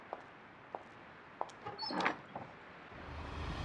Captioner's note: door open; menacing wind